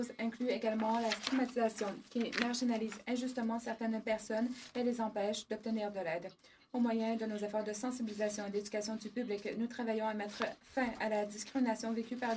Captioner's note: speaking French